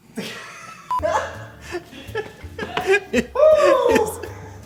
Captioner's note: both laugh